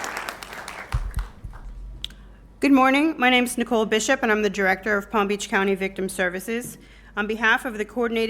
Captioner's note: applause